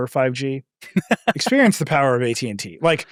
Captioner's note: laughing